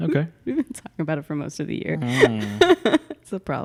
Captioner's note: laughs